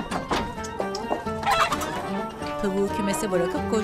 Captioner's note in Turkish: Tavuk gıdaklama sesi